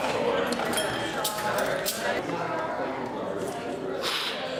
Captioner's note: crowd murmuring